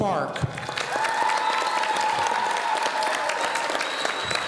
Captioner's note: audience applauding